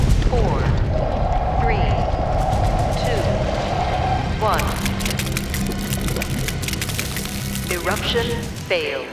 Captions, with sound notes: four... three... two... one. [cracking] Eruption failed.